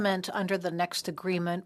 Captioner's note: speaking French